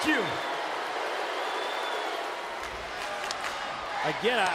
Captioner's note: crowd cheers, whistles, and boos